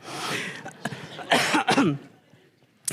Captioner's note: laughter; coughing